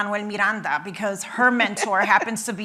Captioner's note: laughing